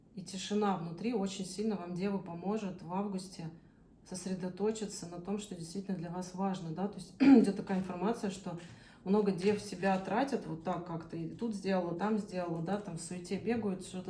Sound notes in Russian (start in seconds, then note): 7.2 откашливается